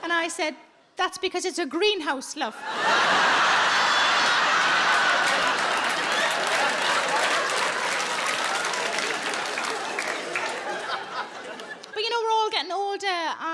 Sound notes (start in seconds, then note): 2.6 audience laughing and applauding